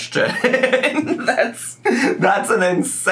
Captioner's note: laughs